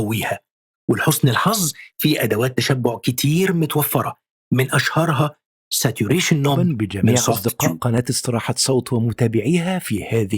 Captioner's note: arabic VO